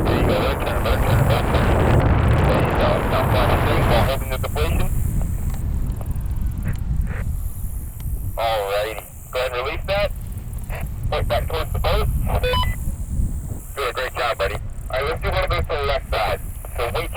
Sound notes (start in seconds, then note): 2.4 roaring wind drowns out the radio; 12.4 radio beeps